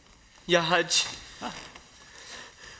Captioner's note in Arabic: بالعربية